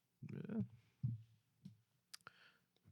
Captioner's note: non-english Speech